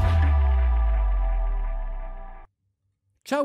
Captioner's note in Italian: Applauso